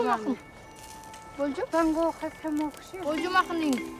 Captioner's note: speaking Uyghur